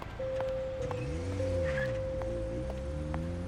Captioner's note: footsteps plodding; engine roaring; tires screeching; footsteps plodding